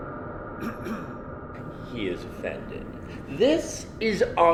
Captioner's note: clears throat